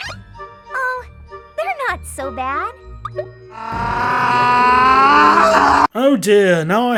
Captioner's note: growl/scream